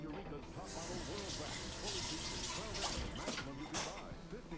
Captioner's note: water gusting